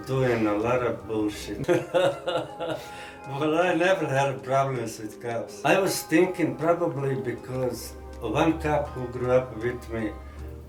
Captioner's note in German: Lacht